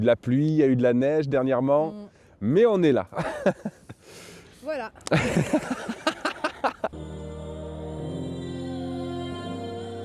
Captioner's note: laughs